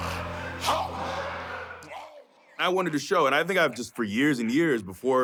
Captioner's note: laugh